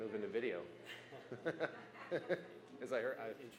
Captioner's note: laughter